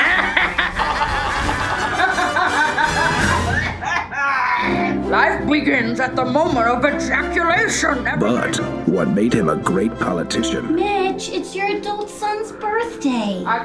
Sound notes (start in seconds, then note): 0.0 evil laughs; 3.0 evil coughs